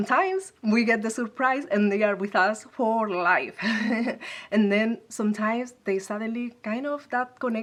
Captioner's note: laugh